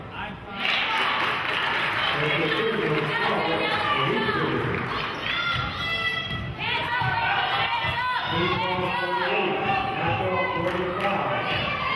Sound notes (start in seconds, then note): 2.4 cheering and clapping; 10.6 clapping